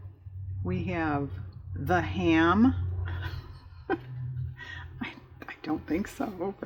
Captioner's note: laughs